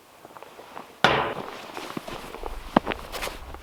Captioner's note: mug thunks; footsteps crunching